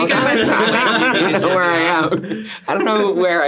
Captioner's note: everyone laughs